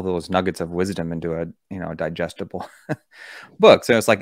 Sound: chuckles

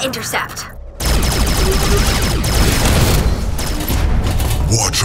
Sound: laser fires

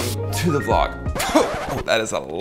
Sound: record scratching sound

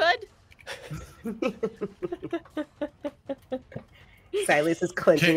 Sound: laugh

